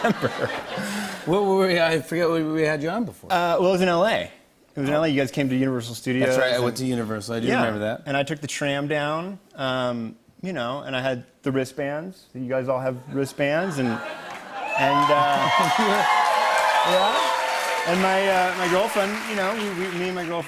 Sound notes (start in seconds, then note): 14.2 cheers and applause